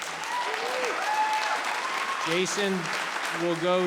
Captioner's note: cheering and applauding